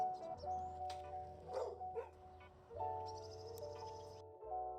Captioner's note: dog barking; gentle piano music